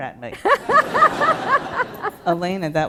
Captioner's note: laughter